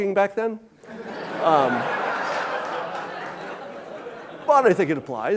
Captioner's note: audience laughing